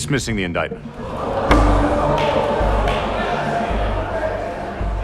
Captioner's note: crowd chatters